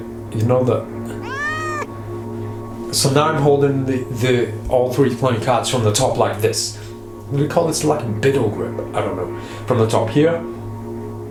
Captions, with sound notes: (cat meowing) So now I'm holding all three playing cards form the top like this. What do you call this, like Biddle grip? I don't know, from the top here.